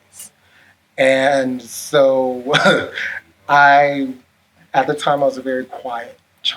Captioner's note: laughs